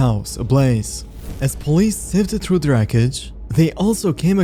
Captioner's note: fire whoosh